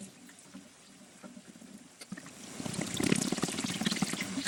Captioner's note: mixer whirring